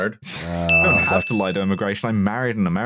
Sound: ding!

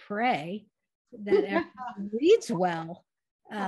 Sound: laughter

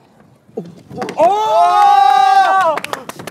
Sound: everybody cheers

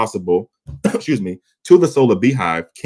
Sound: coughs

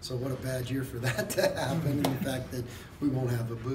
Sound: laugh

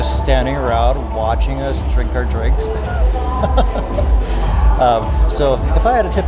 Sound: laughs

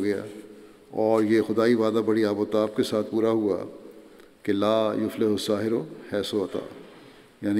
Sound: Arabic

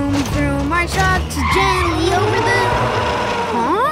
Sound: howling

